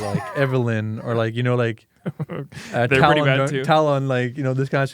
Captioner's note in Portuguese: risos